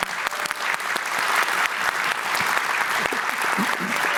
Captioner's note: applause